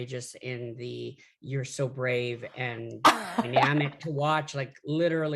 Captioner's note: laughs